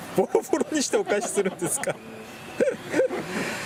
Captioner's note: laughs